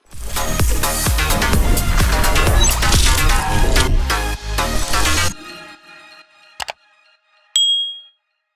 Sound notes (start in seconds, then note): 0.1 energetic music; 6.6 click sound; 7.6 bell rings